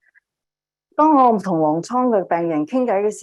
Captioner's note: speaking chinese